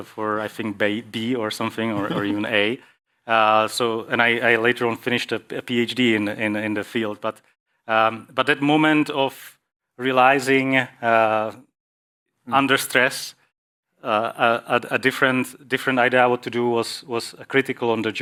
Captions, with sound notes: ... for, I think, B or something, or (laughs) ... even A. I later on finished a PhD the field. But, that moment of realizing,under stress, a different idea what to do was, critical on the